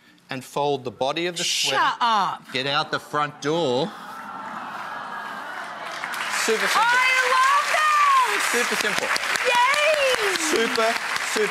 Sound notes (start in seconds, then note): 7.2 audience applause